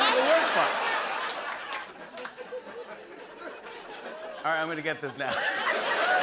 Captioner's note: laughter